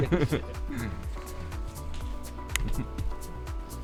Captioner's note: laughter